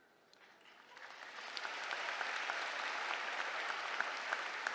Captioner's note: applause